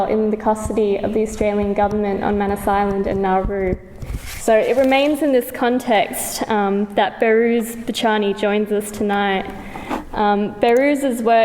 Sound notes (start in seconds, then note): none